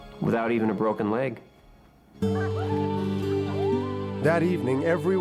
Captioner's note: kids playing